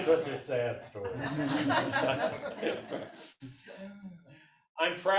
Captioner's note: audience laughs